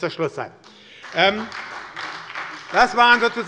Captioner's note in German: Beifall bei der SPD